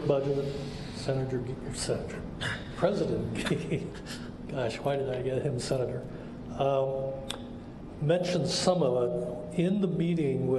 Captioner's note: laughs